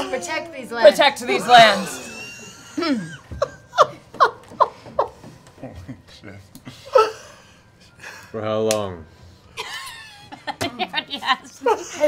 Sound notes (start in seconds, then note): 6.1 quietly; 9.6 laughs